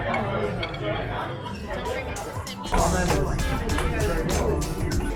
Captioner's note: plate clanks